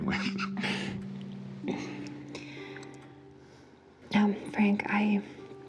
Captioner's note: both laughing